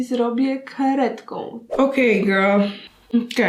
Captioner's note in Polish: zium